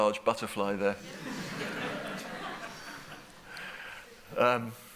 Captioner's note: laughter